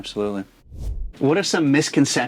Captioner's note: air whooshing